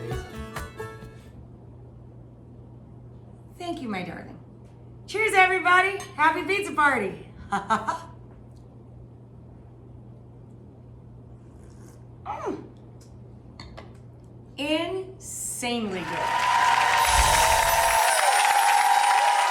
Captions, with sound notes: With basil. Thank you, my darling. Cheers, everybody, happy pizza party. (laughs) (slurping) Mm! Insanely good. (cheering and clapping)